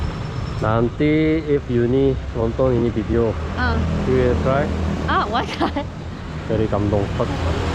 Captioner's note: laughs